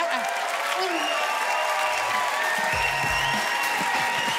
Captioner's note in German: Jubel, Applaus, Pfiffe